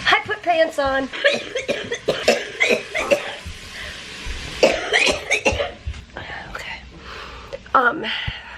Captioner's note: coughing